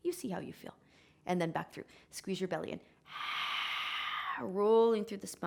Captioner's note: exhaling